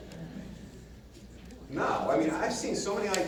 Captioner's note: audience murmurs